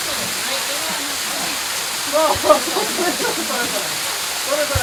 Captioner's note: laughter